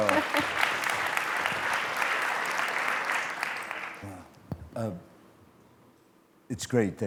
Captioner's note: applause